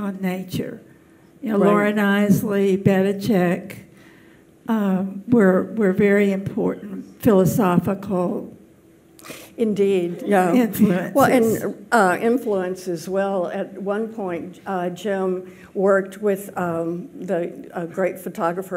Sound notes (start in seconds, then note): none